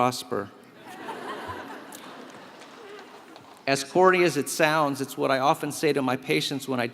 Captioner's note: laugh